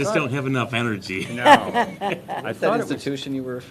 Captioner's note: laughter